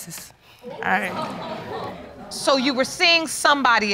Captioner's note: audience laughing